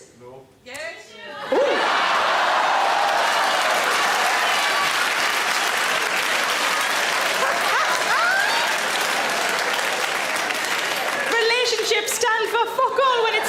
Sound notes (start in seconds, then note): 2.3 audience cheers; 3.6 audience claps; 7.4 Sarah laughs